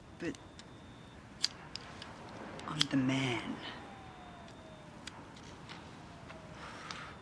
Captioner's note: none